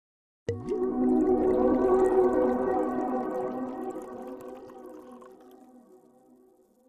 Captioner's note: soft melodic music; wine pouring